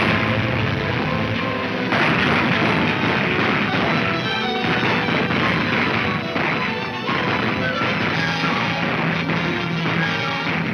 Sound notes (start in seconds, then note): 1.8 gunfire roaring